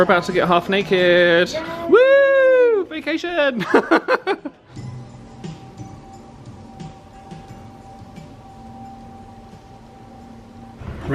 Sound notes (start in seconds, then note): 3.6 laughs; 5.1 upbeat music